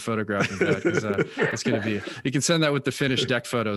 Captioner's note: laughing